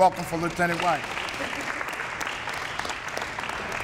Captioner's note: applause